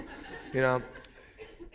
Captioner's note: laughter